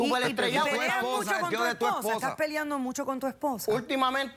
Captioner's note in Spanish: Hablan al unísono